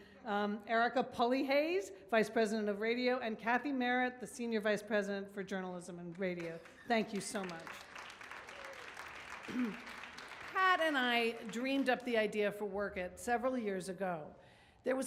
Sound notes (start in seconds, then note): 8.1 audience claps